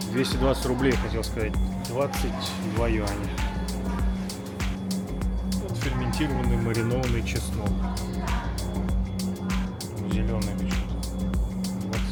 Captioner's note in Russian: фыркает